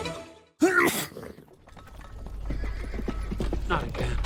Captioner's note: sneeze; hooves approaching